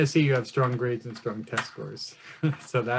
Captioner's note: laughs